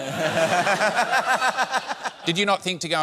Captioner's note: laughter